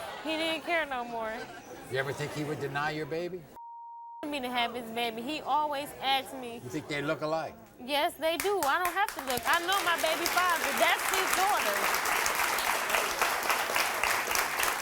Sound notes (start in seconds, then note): 11.9 applause